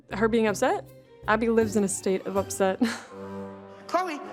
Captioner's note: chuckles